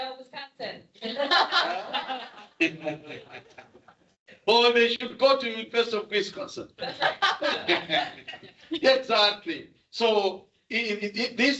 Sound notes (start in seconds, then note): 4.5 audience chuckles; 9.0 audience chuckles